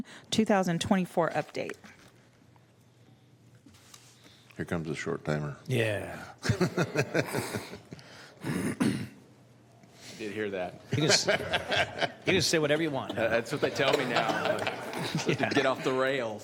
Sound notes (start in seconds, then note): 10.9 laughter